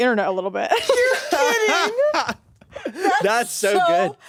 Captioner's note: all laugh